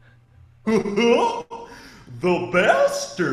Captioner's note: eerie laughter